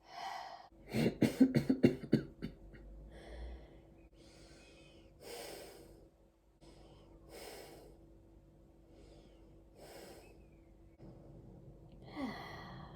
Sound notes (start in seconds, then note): 0.9 coughing; 4.3 light gentle breathing